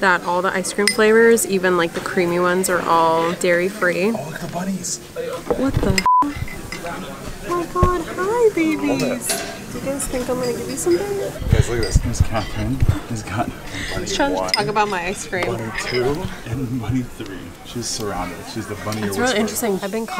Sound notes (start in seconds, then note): 5.9 beep